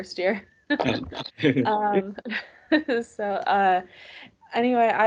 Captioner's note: both laugh